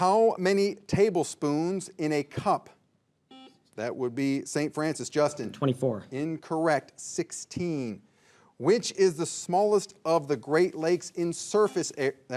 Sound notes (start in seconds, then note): 3.3 signal beeps; 11.5 signal beeps